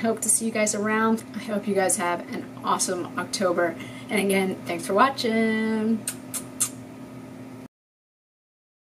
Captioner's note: airkisses